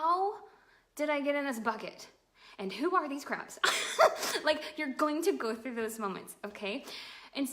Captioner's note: laughs